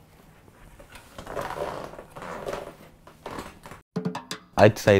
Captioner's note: chair creaking